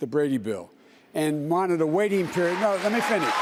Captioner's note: shouting